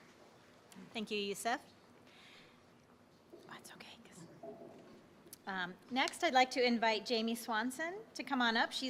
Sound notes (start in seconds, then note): 3.7 whispering